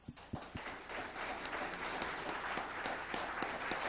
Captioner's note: audience applauds